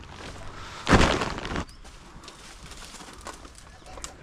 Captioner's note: feet stomping; bag crinkling